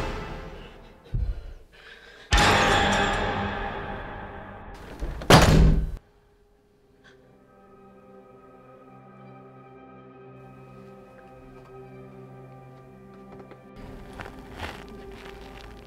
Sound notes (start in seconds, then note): 4.7 loud thud